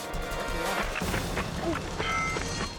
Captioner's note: paint gun popping